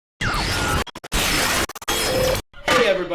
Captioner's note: scrambled whooshing sound